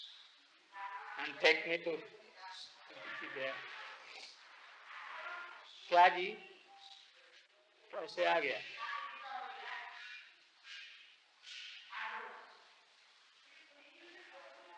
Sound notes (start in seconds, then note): 3.9 Hindi